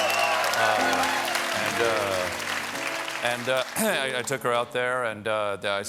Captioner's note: cheers and applause